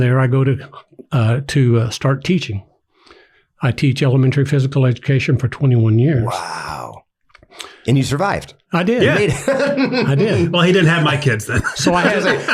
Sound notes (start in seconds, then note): 9.0 laughs